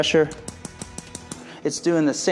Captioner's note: device clicking